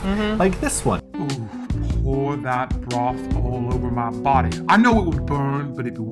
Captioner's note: "sexy" voiceover